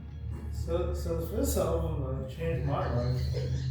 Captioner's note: giggle